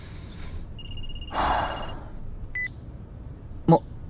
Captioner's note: sigh